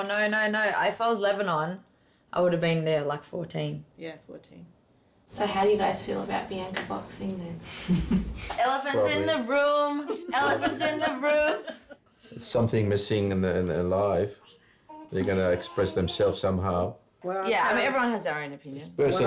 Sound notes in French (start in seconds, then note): 7.8 rire nerveux